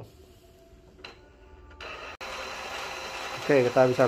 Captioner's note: printer machine sound